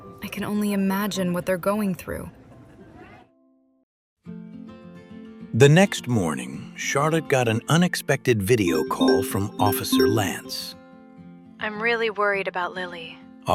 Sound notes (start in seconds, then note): 8.6 computer Notification